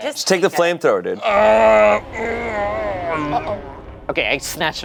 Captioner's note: groans